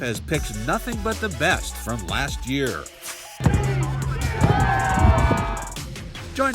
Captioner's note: crowd Cheers!